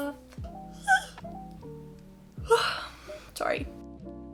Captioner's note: high pitched yawning noises